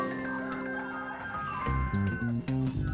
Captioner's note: dog barks; rooster crows